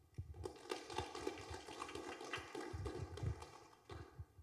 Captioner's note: applause